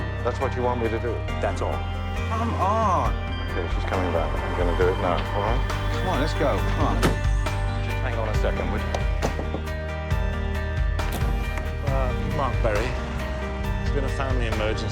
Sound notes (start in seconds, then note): 8.3 drums on glass